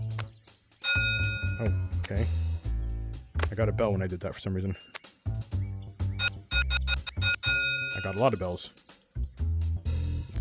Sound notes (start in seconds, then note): 0.7 ding; 6.2 ding*ding*ding*ding